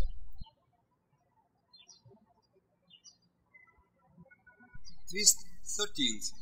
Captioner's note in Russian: птички щебечут